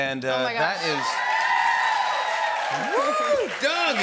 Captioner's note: cheers and applause